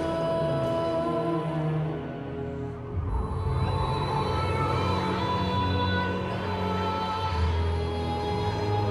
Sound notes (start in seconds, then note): 2.7 wind whistling